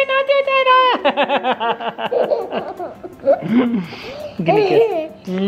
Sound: laughter

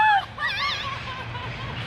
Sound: all laughing; birds chirping

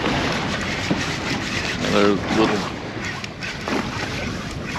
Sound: water lapping

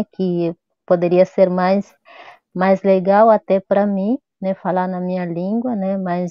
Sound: speaks portuguese

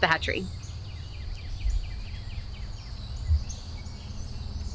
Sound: birds chirping

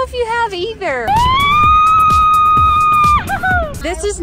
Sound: excited screaming

